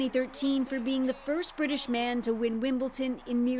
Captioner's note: cheering